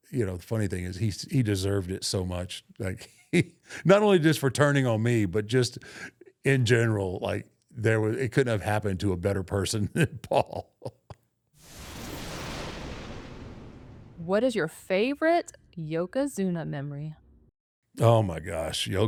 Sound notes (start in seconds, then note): 9.8 Undertaker chuckles; 11.7 thunder rumbling